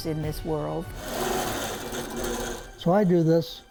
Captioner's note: sewing machine running